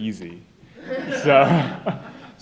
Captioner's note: laughter